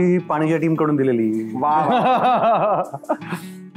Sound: laughter

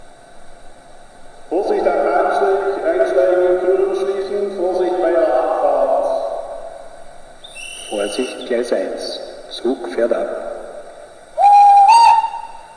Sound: conductor's whistle and announcement

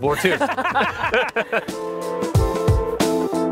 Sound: all laughing

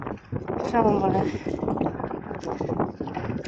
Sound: wind

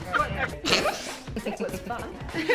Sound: light giggling; light snorting; loud giggling

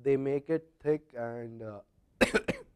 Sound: cough

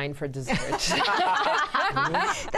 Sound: laughter

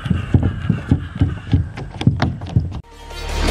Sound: sound of feet coming down the slide

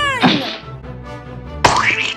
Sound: gasps; splat!

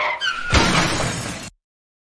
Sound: brakes squeal; cars crashing

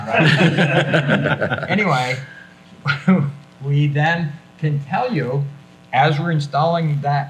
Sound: everyone laughs

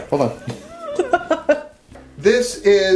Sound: sister laughs

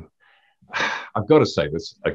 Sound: sighing

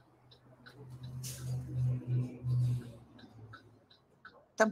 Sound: bus engine roaring

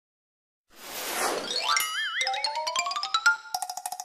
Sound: cartoon sounds

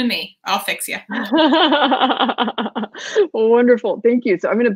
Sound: laughing

